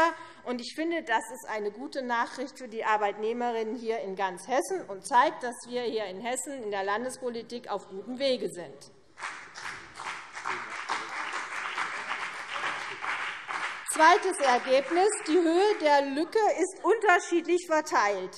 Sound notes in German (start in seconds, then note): 9.2 Beifall CDU und BÜNDNIS 90/DIE GRÜNEN